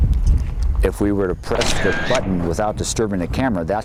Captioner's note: camera clicks